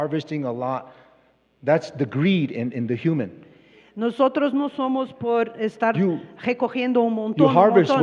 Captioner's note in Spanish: Expositor habla en inglés